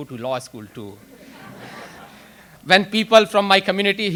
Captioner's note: audience laughs